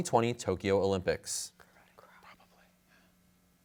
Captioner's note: whispers